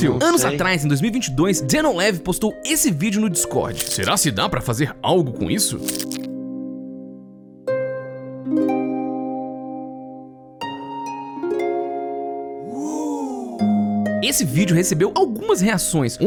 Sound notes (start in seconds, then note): 6.5 calm music; 12.7 sound of a surprised reaction from a group of people